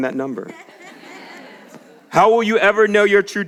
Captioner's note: audience laughs